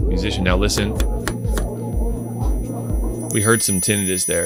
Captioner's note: ears ringing